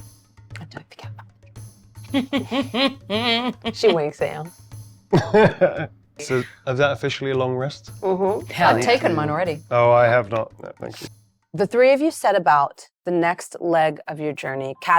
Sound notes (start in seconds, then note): 2.1 Mayanna chuckles